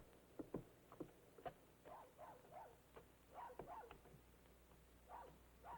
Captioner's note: dog barking in distance